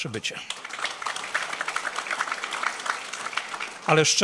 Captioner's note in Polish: oklaski